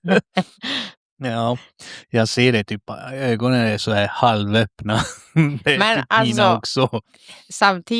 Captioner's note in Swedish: skratt; skratt